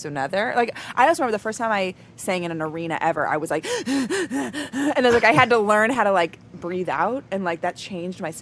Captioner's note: heavy panting